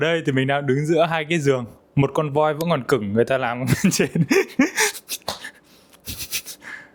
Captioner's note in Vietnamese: tiếng cười